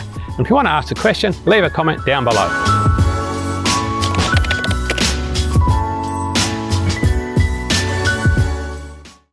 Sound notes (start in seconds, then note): 2.8 upbeat instrumental music; 4.0 keyboard clicks